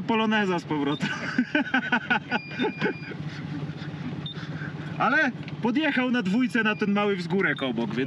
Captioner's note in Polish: śmiech